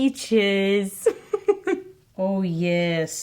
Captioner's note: giggling